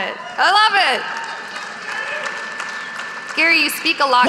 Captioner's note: audience applauding